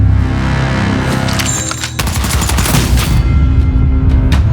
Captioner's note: rapid gunshots